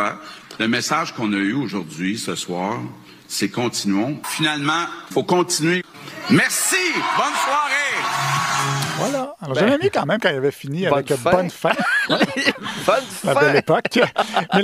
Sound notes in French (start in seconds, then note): 11.6 rires